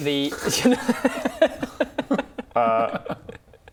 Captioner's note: cheeky giggle